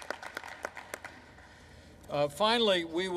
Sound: applause

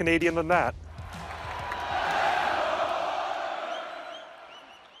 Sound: cheering fans

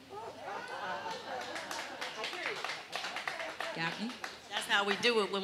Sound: audience applauding

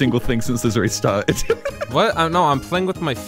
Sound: laughing

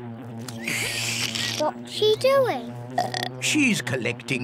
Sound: slurps; belches

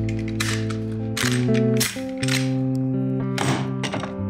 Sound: clicking

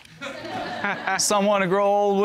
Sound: audience laughing

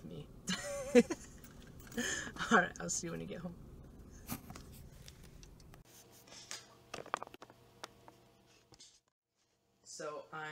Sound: laughing

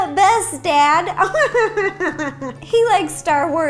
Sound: cheesy laughing

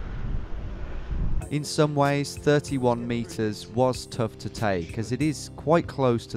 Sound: voiceover

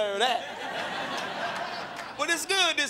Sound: crowd laughing

